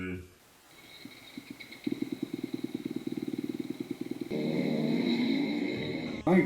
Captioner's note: dirt bike starts